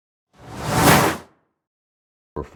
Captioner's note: logo flipping